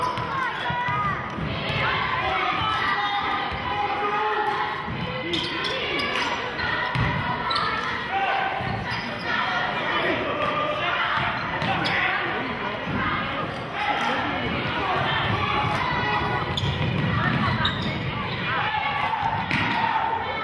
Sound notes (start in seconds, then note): 0.3 yelling; 3.1 chanting